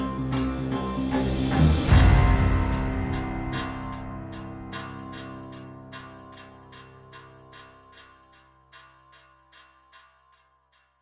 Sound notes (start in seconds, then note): none